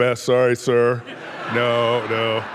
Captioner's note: audience laughing